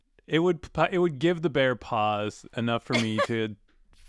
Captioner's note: screams BEAR PAWS